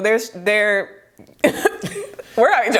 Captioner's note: both laughing